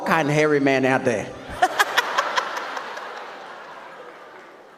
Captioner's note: audience laughs